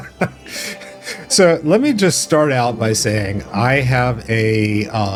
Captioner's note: laugh